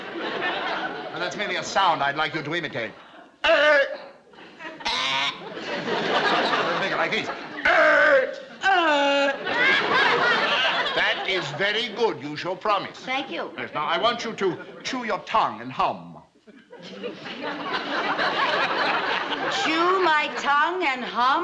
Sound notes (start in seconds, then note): 3.5 guttural grunt; 3.5 raspy grunt; 7.7 guttural grunt